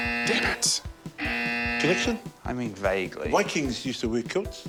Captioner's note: gasps; buzz!